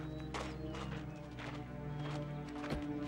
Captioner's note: footstep